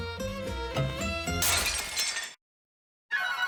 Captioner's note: crash